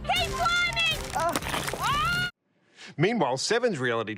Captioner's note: screams